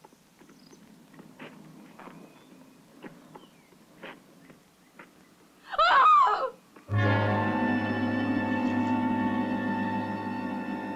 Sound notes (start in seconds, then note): 5.9 gasping; 6.9 tense instrumental music